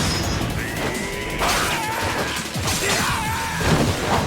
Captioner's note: characters shouting